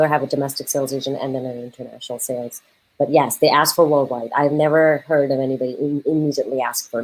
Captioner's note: none